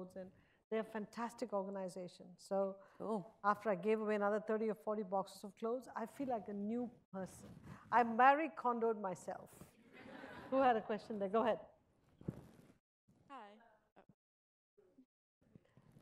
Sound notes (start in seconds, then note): 10.1 audience chuckles